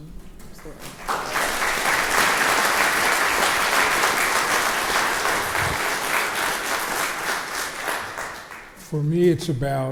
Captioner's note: crowd applauds